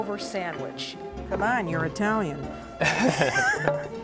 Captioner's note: laughter